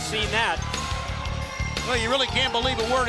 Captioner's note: crowd cheering